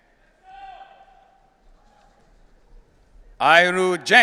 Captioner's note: audience cheering